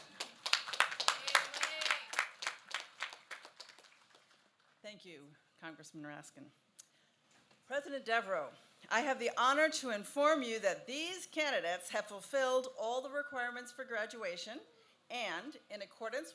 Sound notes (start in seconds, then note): 5.7 applause